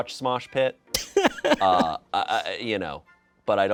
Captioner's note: crew laughs